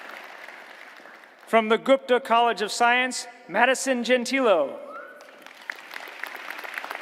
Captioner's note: applause